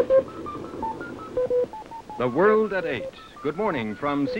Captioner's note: computer bleeps